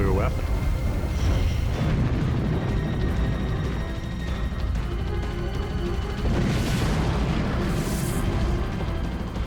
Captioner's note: explosion